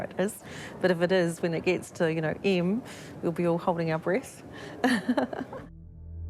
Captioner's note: laughs